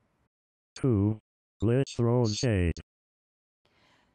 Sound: robot Voice

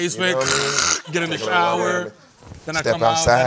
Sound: sucking air

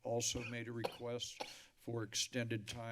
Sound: coughing

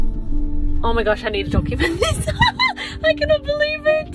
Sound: laughs

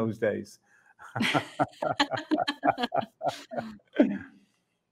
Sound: both laughing

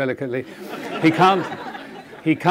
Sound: audience laughing

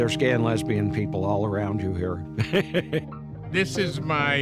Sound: laughs

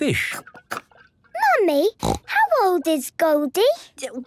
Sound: snorting

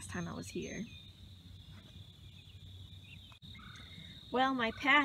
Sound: birds chirping

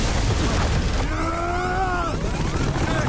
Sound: screaming

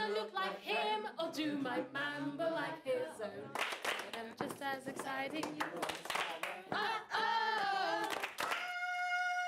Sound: stomping, clapping

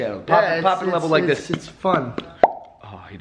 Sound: pop

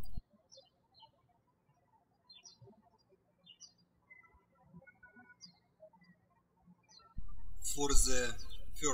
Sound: birds chirping

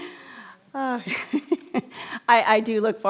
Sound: chuckles

